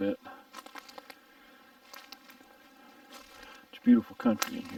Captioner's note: twigs snapping